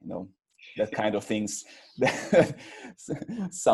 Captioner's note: laughs